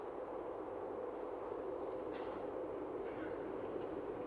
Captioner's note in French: Bruit de train